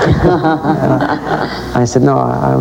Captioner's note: laugh